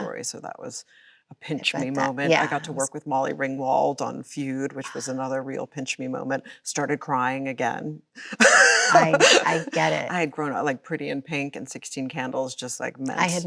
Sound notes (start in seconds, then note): 8.3 Chloe laughs